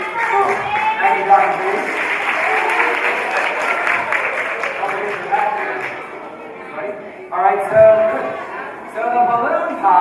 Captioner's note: applause